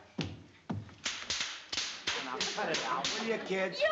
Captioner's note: cap guns popping